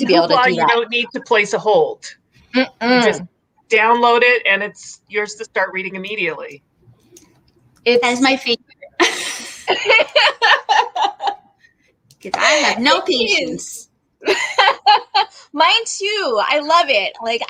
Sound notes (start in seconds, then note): 8.9 laughing; 14.3 laughs